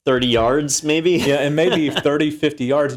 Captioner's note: laugh